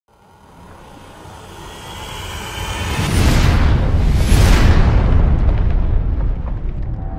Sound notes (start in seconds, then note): 0.2 exciting sound effect